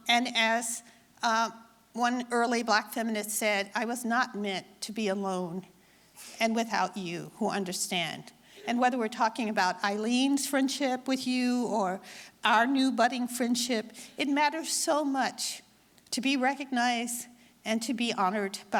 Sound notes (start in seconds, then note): none